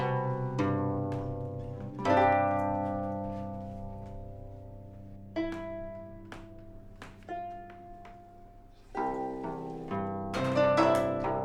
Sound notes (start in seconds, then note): none